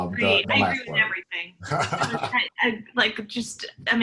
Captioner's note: laughs